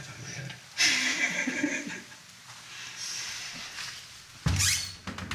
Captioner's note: Tripp and Edith giggling